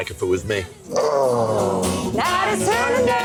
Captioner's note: man groans